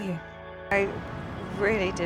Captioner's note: voiceover